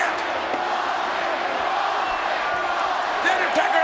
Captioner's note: crowd chants "Austin"